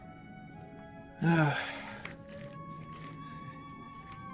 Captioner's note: sighs